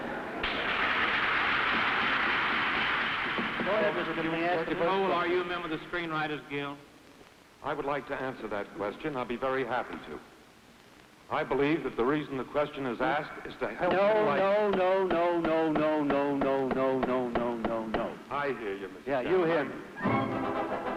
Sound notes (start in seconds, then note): 0.4 applause; 14.3 gavel pounding